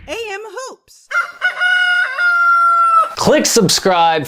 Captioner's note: whooshing sound; rooster crowing